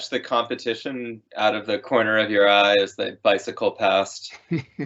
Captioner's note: laughing